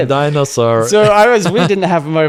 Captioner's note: laughs